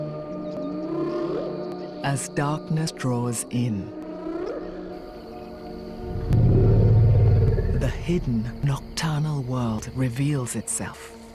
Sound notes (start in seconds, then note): 6.3 grumbles